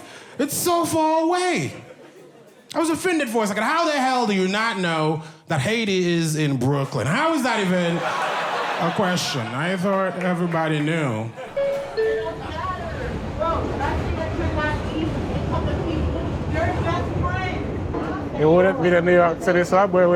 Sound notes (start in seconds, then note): 11.4 subway bell dings; 14.0 subway rider shouts